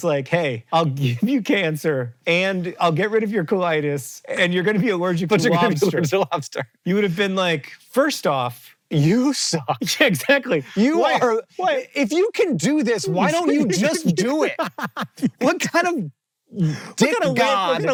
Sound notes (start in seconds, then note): 5.2 laughing; 10.5 laughing; 14.6 JOHN laughs